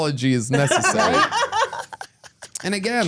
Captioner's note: laughs